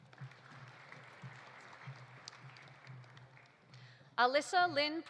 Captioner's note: audience applauding